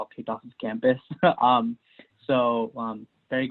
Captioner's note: laughs